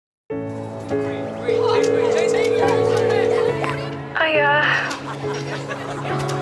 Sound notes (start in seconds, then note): 1.3 excited chatter; 1.4 phone ringing; 4.0 girl on phone; 4.6 all laugh